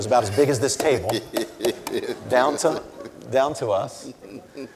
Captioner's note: Cornel laughs